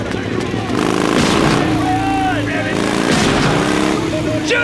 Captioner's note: gunshots